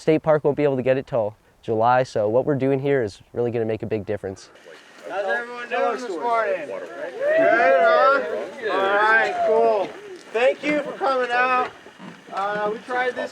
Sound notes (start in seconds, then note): 8.2 crowd cheers